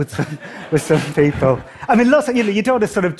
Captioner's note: laughter